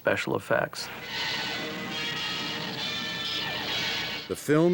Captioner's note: lasers firing